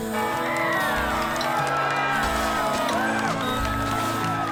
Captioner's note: family and friends cheering